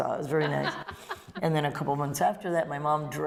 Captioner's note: laughter